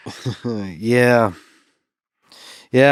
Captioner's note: chuckles